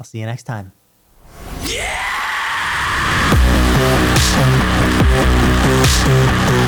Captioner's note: profane scream